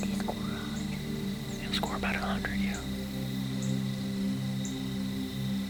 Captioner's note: whispering